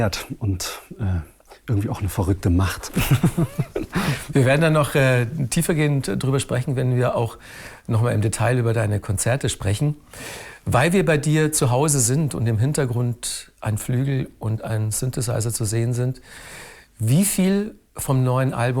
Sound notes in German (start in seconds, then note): 2.9 lacht